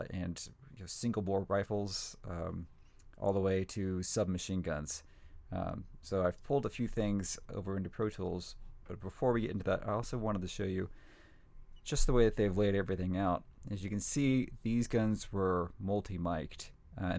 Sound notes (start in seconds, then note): none